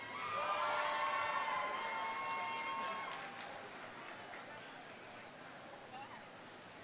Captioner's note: audience applauding; audience cheering